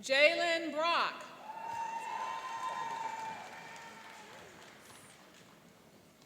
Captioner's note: cheering and applauding